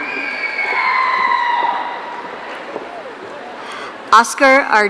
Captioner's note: audience cheering